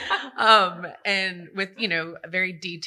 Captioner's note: laughter